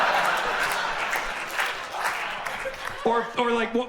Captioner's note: audience claps and applauds